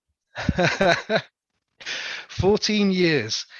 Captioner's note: laughs